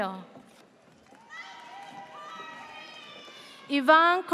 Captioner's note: audience cheers